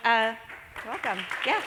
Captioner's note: applause